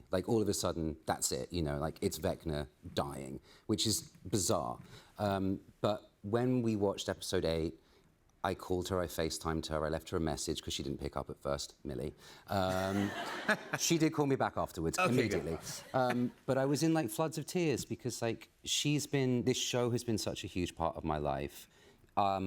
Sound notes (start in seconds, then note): 12.7 laughter